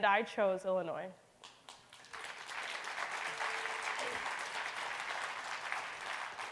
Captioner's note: clapping